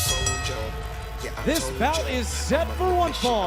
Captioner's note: bell ringing